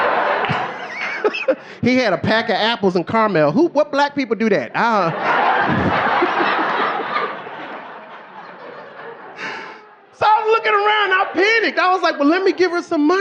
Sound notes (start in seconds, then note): 0.0 audience laughing; 2.2 laughing; 4.8 audience laughing